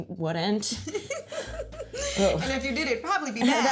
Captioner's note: laughing; scoffs